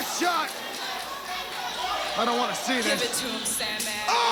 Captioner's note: crowd cheering